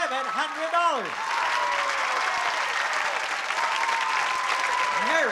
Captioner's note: applause and cheering